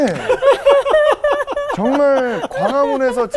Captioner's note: laughing